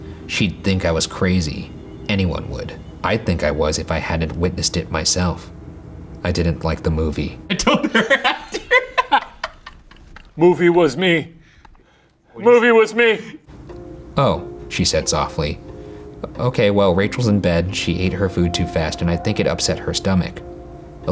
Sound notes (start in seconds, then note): 7.5 both laughing